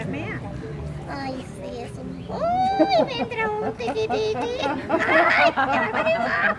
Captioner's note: puppet voice